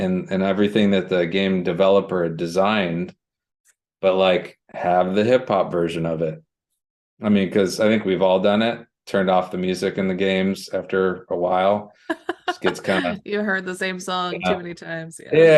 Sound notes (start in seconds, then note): 12.2 laughter